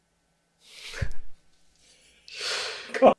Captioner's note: laugh